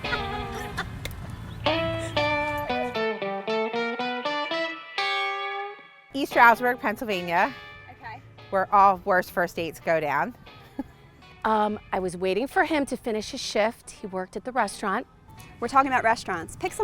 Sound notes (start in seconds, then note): 0.0 laughing; 3.8 invigorating music